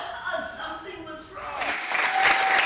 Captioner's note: Aplausos